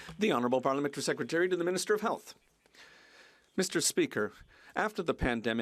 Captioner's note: some Applause